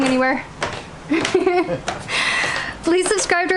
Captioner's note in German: Lachen